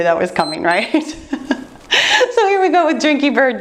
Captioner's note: timer beeps